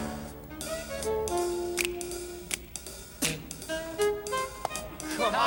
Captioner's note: fingers snapping